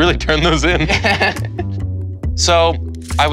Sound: both laughing

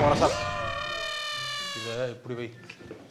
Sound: elephant Screaming

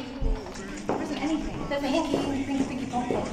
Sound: none

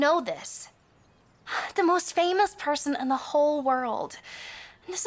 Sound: sighs

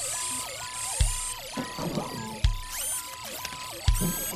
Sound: electronic Beeping & Whirring

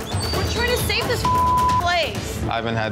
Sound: beep

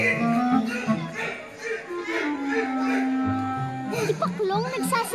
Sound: Ikong grunts

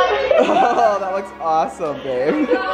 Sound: laughing

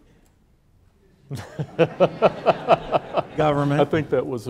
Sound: laughing

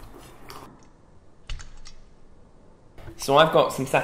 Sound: thumping

